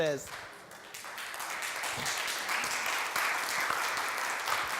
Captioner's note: applause